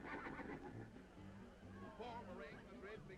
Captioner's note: horse neighing